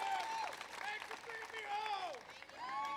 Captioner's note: applause